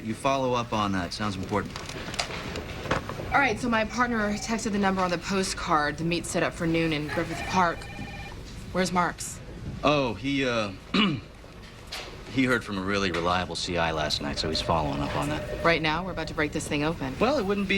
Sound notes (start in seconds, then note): 10.9 clears throat